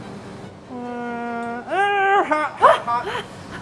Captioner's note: groaning